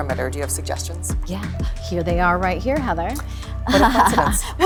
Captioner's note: laughs